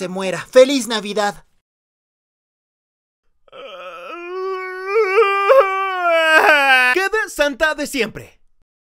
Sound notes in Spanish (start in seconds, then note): 3.5 LLorar